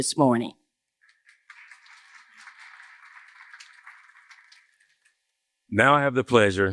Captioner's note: applause